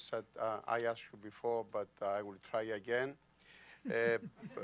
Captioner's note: laughter